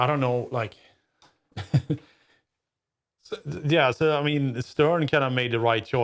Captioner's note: laughs